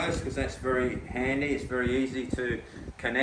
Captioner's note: none